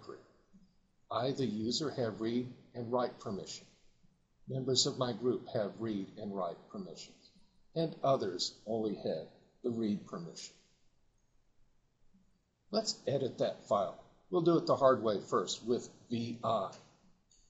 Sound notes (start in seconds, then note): 10.0 silence